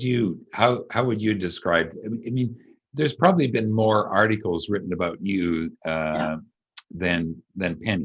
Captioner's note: laughs